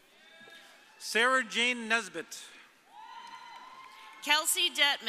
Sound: audience cheering

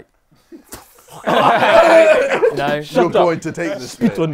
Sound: people laughing

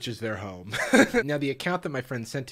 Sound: laughs

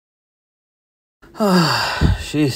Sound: loud sigh

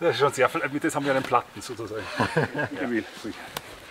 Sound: german speaking

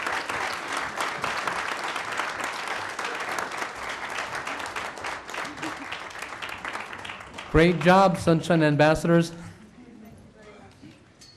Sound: applause

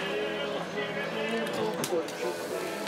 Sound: radio playing

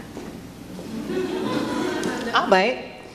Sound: audience laughs

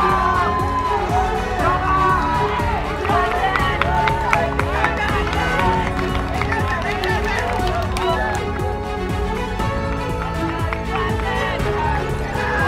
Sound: clapping

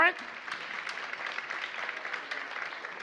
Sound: applause

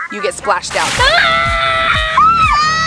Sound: splash; screaming

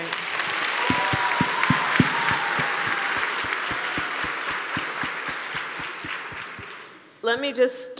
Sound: applause

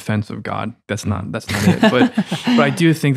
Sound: friars laughing

